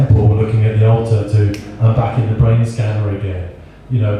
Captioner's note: snaps